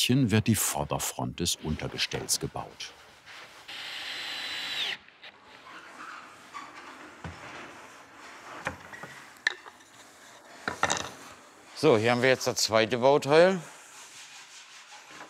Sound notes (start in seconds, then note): 11.7 scratching noise, rattling of wood